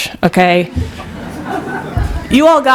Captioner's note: laughter